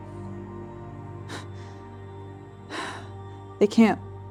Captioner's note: breathing hard